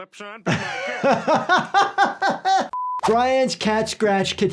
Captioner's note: laughs